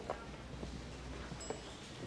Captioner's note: people chattering; elevator chimes